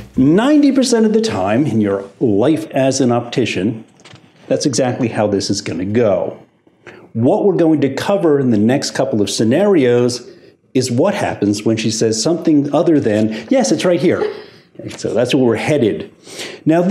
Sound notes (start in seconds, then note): 13.8 customer giggles